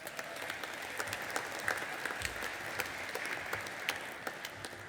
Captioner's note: audience applauding and cheering